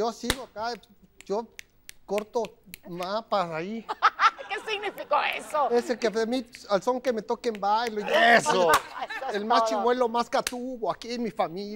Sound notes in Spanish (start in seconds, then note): 3.8 Ríe; 7.9 Ríe